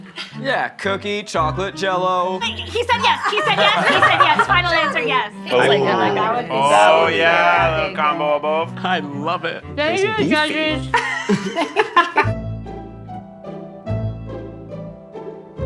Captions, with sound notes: - Yeah, cookie chocolate, Jell-o. - He said yes, he said yes, he said yes, final answer, yes. - Oh, oh yeah, little combo of both. - I love it. - Thank you, judges. - It's beefy. (all laughing) (mellow festive music)